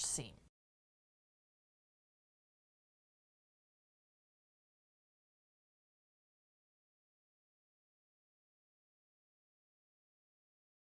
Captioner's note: no Sound Present